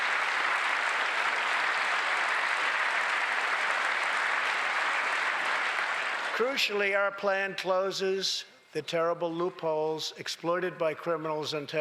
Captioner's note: applause